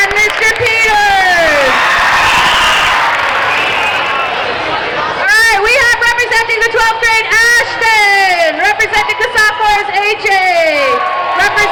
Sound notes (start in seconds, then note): 1.8 crowd cheering